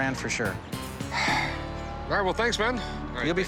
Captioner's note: sighs